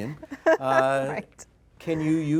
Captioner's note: laughs